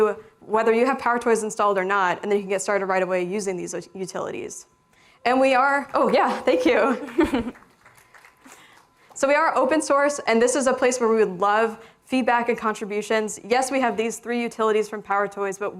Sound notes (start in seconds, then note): 7.0 applause